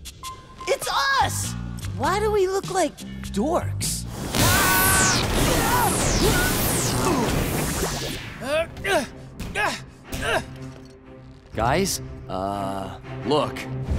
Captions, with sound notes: It's us! Why do we look like dorks? [screaming] [grunting] Guys, uh look!